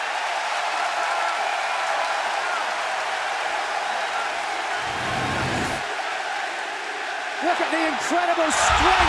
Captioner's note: cheers and applause